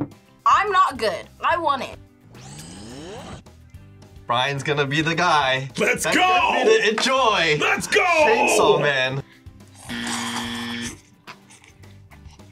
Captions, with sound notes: - I'm not good. I want it. - Brian's gonna be the guy. - Let's go! - I'm gonna enjoy! - Let's go! - Chainsaw Man. (buzzer)